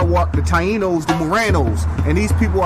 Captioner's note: speaking foreign language